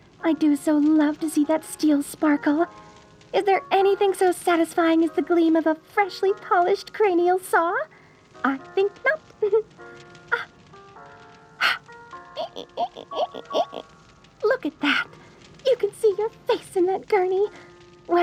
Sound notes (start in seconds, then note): 11.6 a breath, the squeak of shining equipment